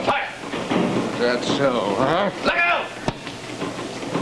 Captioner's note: yells